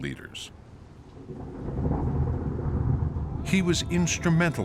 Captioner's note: thunder rumbling